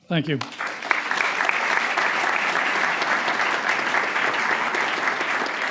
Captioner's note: crowd applauding